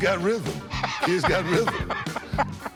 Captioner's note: Rick laughing